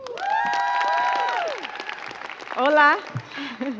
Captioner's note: crowd cheering and clapping